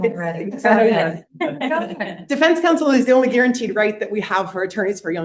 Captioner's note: laughter